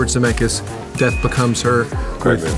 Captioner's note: bell dings